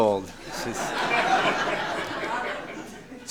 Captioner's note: applause